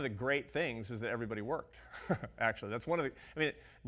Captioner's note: laughs